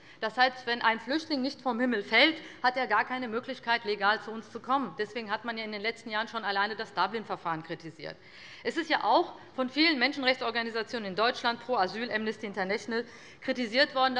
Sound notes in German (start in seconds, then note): none